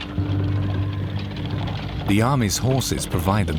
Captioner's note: horse trotting